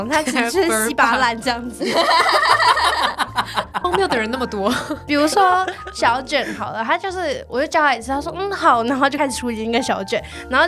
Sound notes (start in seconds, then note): 1.8 powerful laughter